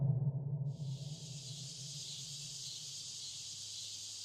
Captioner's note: eerie dramatic music continues; insects chirping